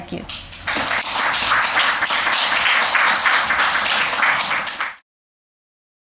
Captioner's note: Aplodes